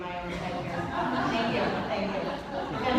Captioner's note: laughter